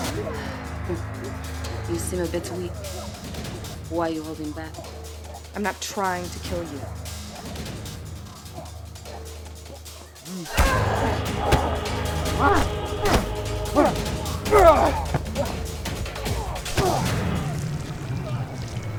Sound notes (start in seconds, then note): 9.6 grunting; 10.5 dramatic orchestral music